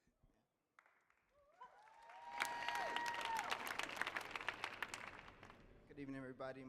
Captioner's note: audience clapping; audience cheering